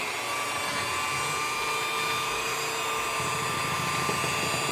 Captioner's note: whiiiiiir